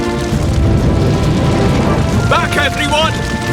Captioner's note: cracking & Roaring; shouting